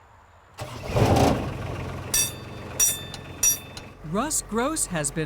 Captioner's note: engine rumbling